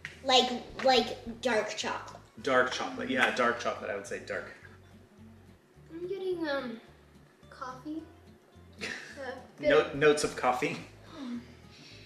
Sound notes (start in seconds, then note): 9.1 laughs